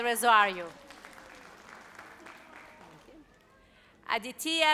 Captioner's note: audience applauds